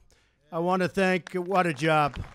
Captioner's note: applause